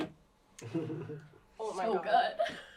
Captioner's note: laughs